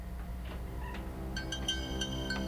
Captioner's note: door squeaks open